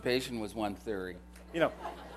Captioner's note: laughter